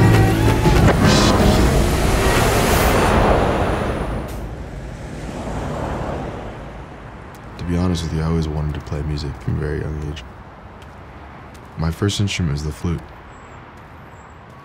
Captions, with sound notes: (traffic roaring) To be honest with you I always wanted to play music at a very young age. My first instrument was the flute.